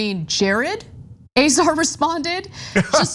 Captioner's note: laugh